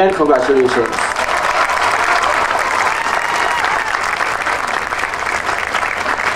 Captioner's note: audience cheering and applauding